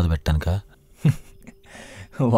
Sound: laughs

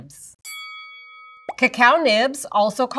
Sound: bell dings

